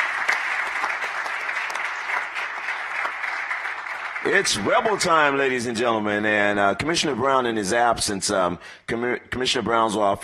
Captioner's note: applause